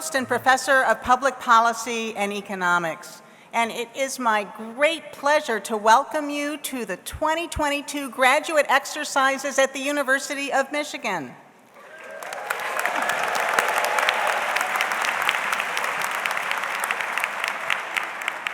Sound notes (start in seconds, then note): 11.7 audience applauds; 11.8 audience cheers